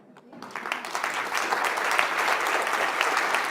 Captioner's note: applauding